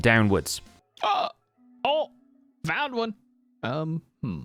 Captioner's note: excited noises